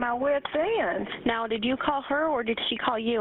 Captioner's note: 911 recording